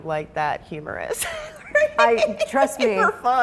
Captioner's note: person laughing